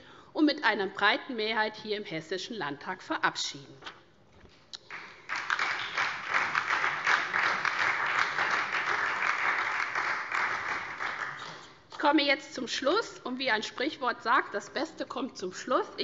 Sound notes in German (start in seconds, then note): 4.8 Beifall SPD und vereinzelt AfD, DIE LINKE